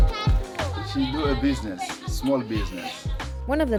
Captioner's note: children chattering